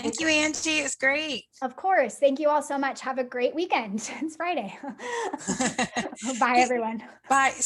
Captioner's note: laughs